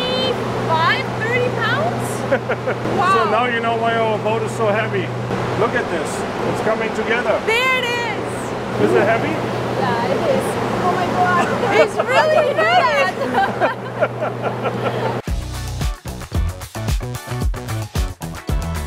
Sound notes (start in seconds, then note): 2.3 chuckles; 13.3 all chuckling; 15.2 upbeat energetic music